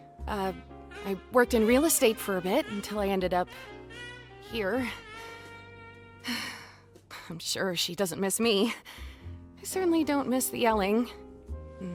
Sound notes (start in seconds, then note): 6.2 sighs